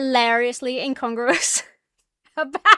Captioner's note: breaks into laughter